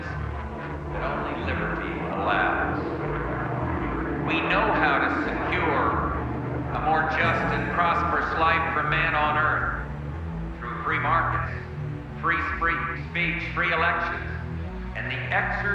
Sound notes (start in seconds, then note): 2.9 airplane roaring